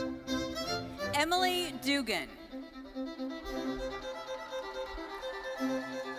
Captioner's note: bright thoughtful music continues; audience cheering